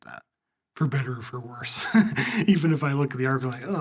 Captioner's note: laugh